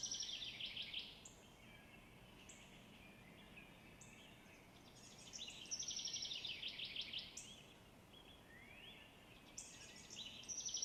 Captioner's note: birds chirping